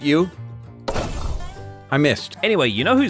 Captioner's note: clang